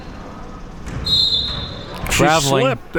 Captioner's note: whistle being blown